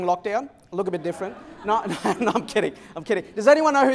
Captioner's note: laughter